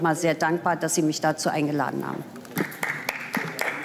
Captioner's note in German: Beifall